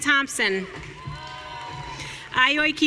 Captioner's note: audience cheering